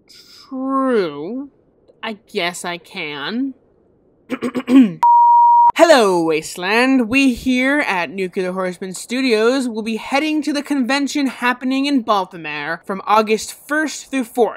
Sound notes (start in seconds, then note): 4.3 clears throat; 5.0 tone sound